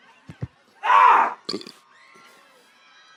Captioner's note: Nick screams; Desmond burps